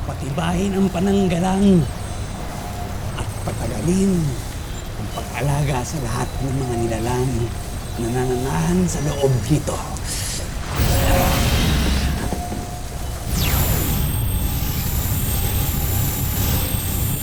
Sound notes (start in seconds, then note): 10.2 magical whoosh; 13.2 reverberating chimes, spellbinding whoosh